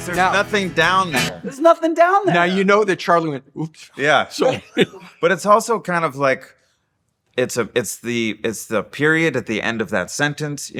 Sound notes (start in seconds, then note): 4.3 laughs